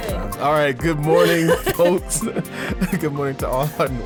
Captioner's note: woman laughs